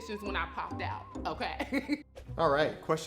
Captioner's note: laughs